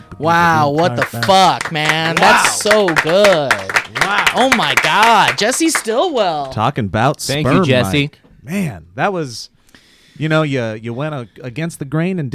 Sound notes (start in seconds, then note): 0.6 clapping